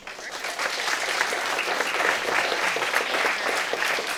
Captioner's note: audience applauding